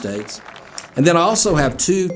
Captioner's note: people applauding